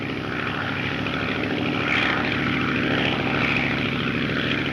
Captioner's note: plane engine roars